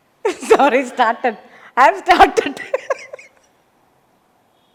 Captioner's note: laughs